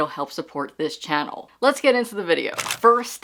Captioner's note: camera shutter